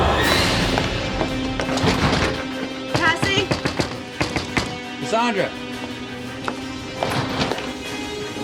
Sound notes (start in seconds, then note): 0.4 knocking